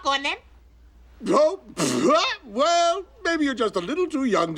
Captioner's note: chuckles